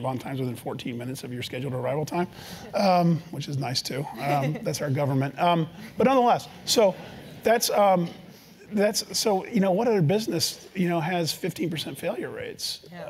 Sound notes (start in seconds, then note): 4.0 laugh